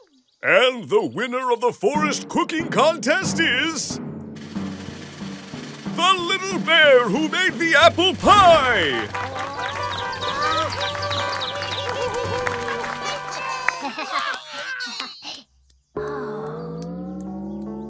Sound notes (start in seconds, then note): 12.5 applause